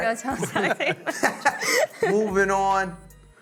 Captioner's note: laughing